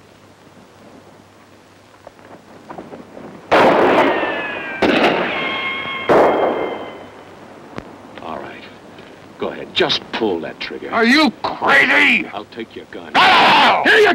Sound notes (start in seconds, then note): 3.5 weapon firing; 13.1 screams